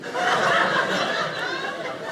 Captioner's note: audience laughing